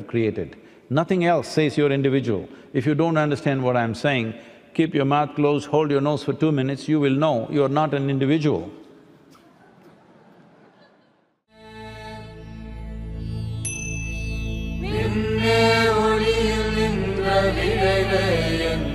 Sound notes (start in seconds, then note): 14.7 laughter